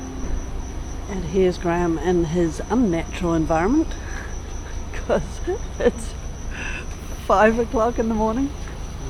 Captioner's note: crickets singing